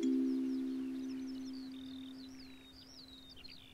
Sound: birds twitter

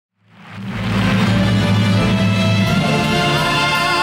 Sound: audience applauding

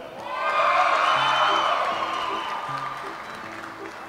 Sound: audience applauds

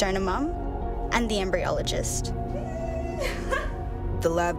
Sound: laughs

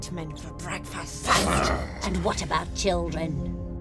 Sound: Kareem and suspect growling

